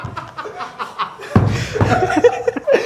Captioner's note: laughter continues